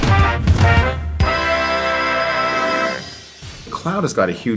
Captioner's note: upbeat music; clock ringing